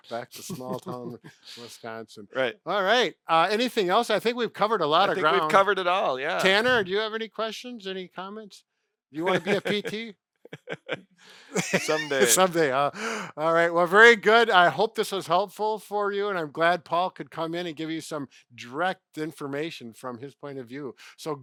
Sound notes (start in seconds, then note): 9.2 laughing